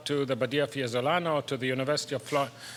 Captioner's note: speaks in foreign language